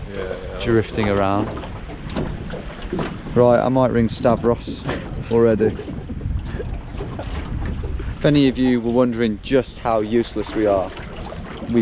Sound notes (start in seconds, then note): 5.9 laughing